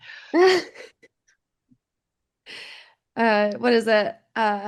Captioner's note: laughing